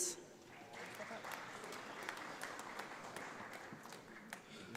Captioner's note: audience applauds